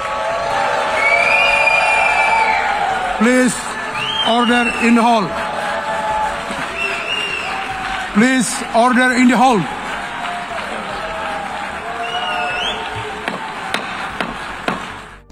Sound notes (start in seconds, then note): 3.2 applause